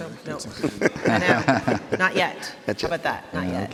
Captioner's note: people laughing